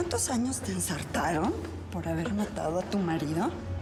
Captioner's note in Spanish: none